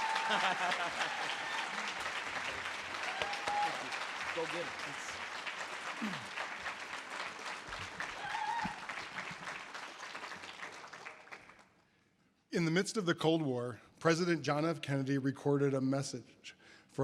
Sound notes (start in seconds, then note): 0.1 audience applause; 0.2 laughs; 1.8 audience applause; 5.4 audience applause